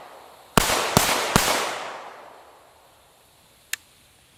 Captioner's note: rapid gunfire